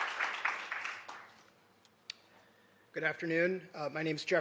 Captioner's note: applause